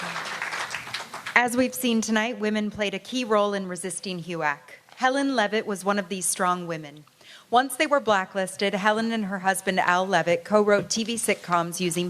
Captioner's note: applause